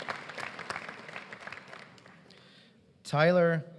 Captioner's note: applause